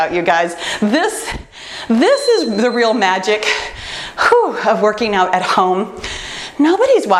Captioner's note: timer beeps